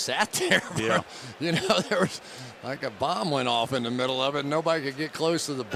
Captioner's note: chuckles